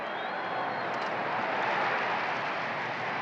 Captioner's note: crowd cheering